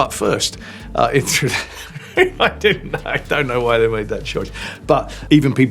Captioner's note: laughs